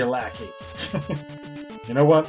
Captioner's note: laughs